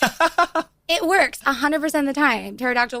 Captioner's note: laughs